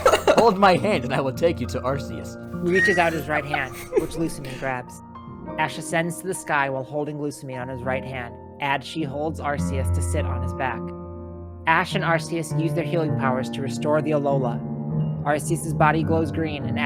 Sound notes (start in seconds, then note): 2.6 chuckles in the background